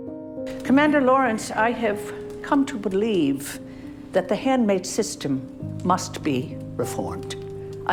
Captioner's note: voiceover